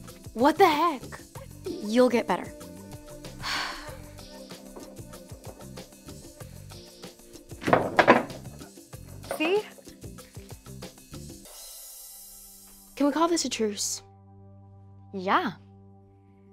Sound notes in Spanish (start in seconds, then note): 3.3 suspiros